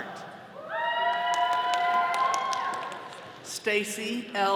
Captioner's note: all cheering